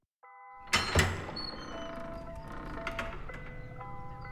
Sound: doors click and creak

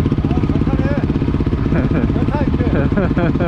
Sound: laughing

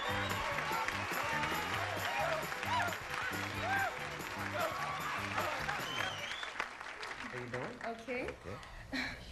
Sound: audience applauding

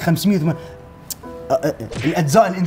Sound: spluttering

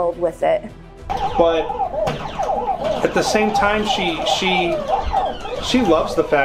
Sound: game beeping

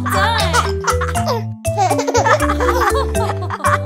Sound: laughing

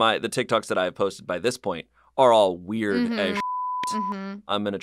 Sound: beep

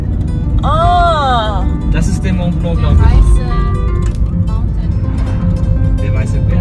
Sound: speaking German

